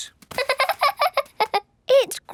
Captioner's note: laughing